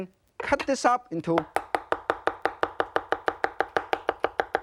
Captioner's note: loud chopping